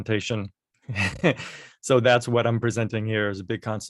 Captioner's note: laughter